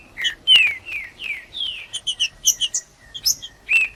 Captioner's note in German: trinca ferro cantando